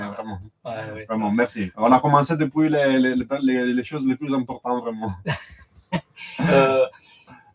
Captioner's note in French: rires